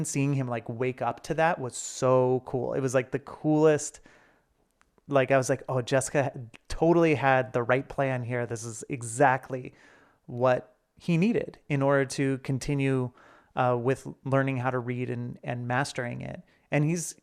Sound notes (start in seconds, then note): none